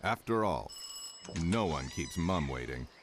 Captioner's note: doorbell ringing